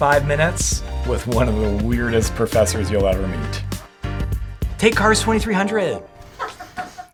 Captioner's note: laughter